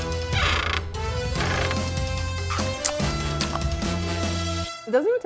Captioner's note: edgy music; chews